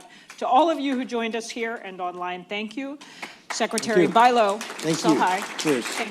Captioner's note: applause